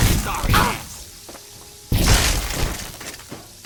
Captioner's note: bzzt! bzzt!; gaah!